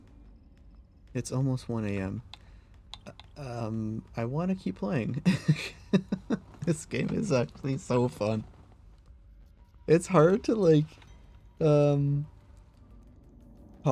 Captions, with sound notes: [laughing] oh, it'svel. hehehehehehe.